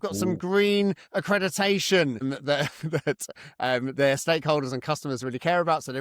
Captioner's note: laughs